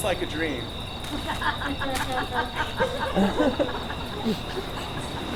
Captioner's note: audience laughs